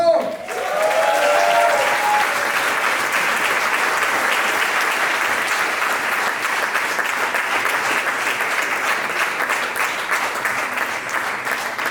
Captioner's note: people clapping hands